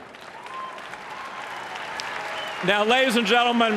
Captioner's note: applause